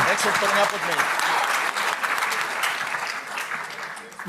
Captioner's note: applause